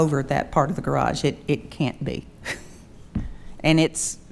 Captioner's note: chuckles